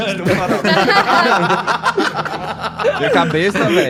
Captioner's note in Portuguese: risada